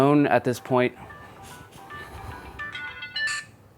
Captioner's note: phone rings